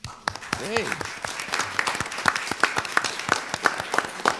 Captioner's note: crowd applauds